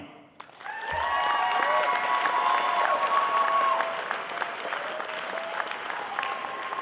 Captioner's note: clapping